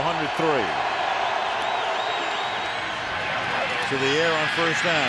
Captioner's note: crowd cheering